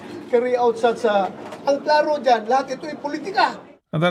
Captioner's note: speaking foreign language